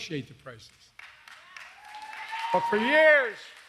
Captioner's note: applause